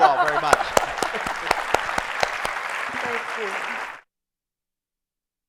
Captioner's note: applause